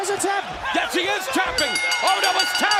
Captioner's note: bell ringing